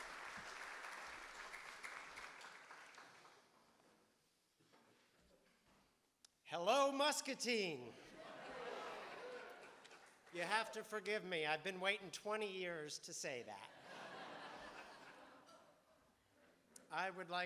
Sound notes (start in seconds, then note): 0.0 audience applauding; 8.0 audience laughing